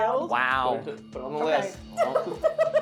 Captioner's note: laughing